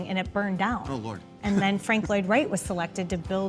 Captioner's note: laughing